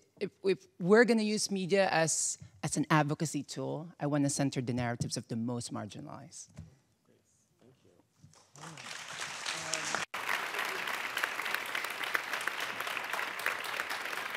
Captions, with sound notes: If we're gonna use media as an advocacy tool, I wanna center the narratives of the most marginalized. - Yes, thank you. (audience applauding)